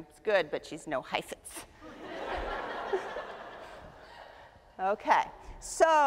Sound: audience laughs

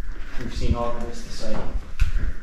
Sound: Drunk Brooklyn accent

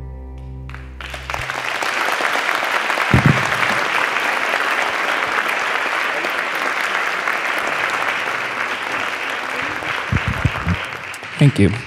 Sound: applause

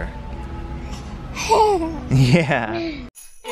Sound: laughs

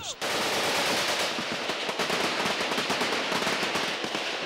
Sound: guns firing

